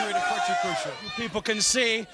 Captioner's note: crowd cheering